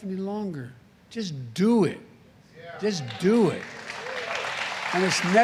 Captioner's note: applause